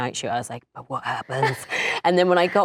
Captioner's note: giggling